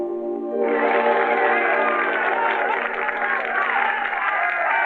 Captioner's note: applause